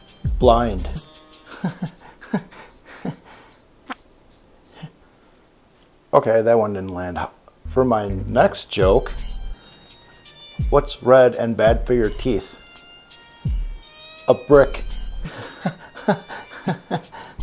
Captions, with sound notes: Blind! [cricket chirping] Ok, that one didn't land For my next joke... What's red and bad for your teeth? A brick